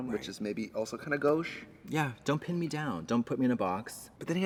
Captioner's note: none